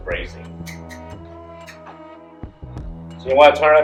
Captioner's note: tongs click